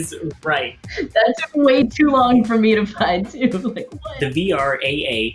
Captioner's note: laughs